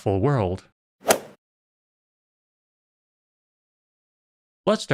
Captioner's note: golf ball hit sound